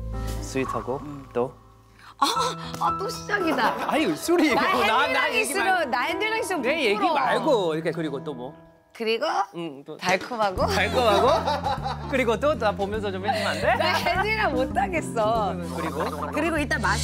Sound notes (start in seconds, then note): 10.7 tee-hee